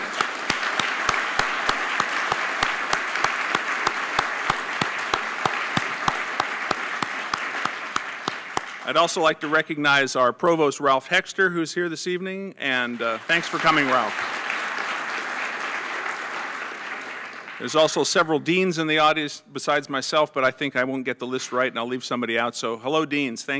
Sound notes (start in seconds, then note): 0.0 applause; 12.8 applause